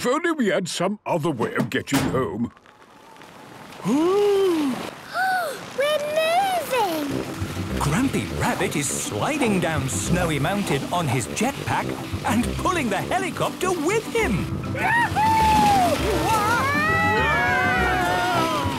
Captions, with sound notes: If only we had some other way of getting home... - (clangs) - (sliding) - Oooh! - (Peppa gasps) We're moving! - Grampy Rabbit is sliding down Snowy Mountain on his jetpack, and pulling the helicopter with him! - Wahoooo! - (all screaming excitedly)